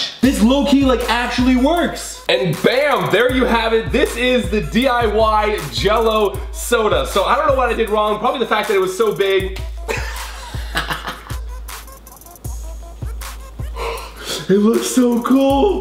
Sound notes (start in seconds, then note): 9.7 smack reverberates; 9.8 laughs